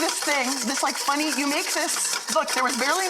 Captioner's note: whisk scraping metal bowl